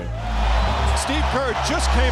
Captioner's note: crowd cheering